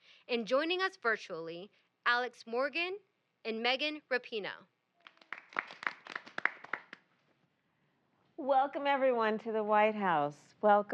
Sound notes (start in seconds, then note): 5.0 applause